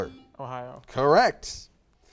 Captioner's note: buzzer beeps